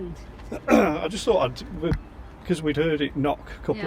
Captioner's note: clears throat